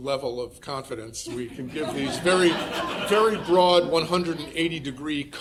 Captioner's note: audience laughing